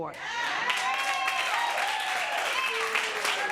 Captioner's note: audience cheering